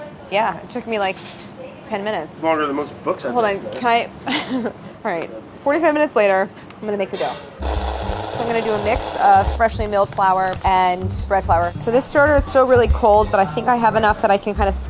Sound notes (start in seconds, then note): 4.2 laughs; 7.6 machine whirring